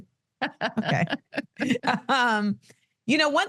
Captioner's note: laughs